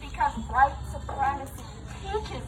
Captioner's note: none